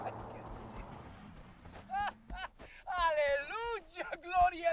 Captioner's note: engine Roars; laughing